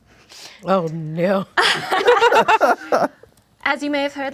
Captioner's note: laughing